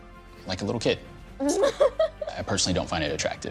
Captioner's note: laughing